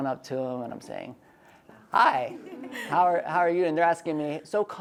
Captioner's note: ladies giggle